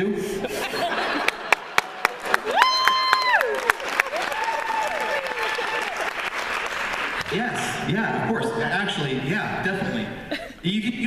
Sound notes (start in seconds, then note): 0.3 laughter